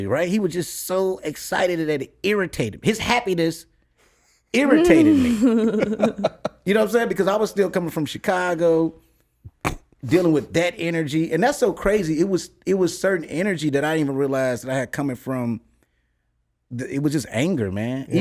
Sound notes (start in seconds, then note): 4.6 laughs